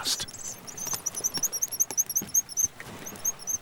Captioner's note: bird chirping